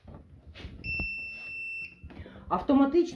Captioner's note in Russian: сигнал